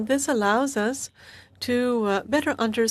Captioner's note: speaking French